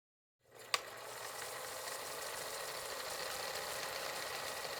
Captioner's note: film reel rolling